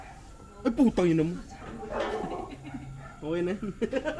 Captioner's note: laughs